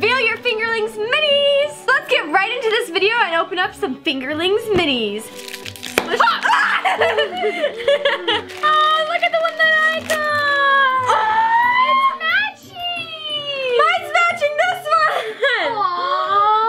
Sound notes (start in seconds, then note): 6.2 screams and laughs